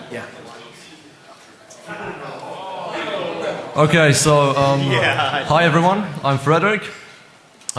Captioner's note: laughter